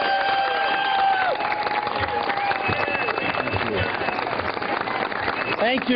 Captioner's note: applause